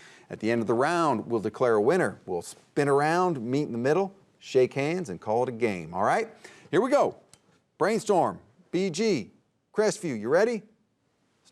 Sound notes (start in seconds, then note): none